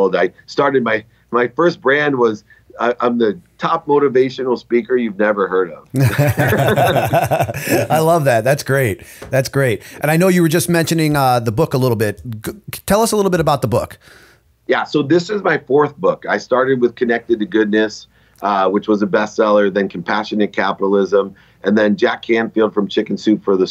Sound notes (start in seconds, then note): 5.9 laughter